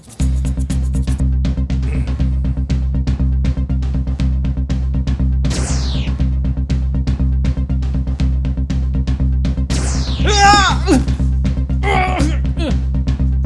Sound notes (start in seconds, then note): 10.2 screams